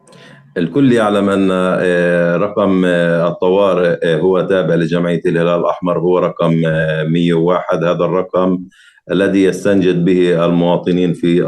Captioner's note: speaking arabic